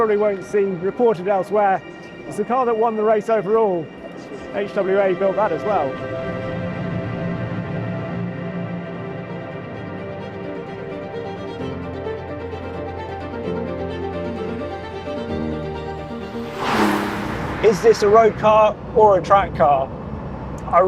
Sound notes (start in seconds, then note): 7.3 enigmatic music continues; 16.1 engine revs